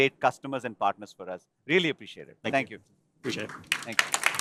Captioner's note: applause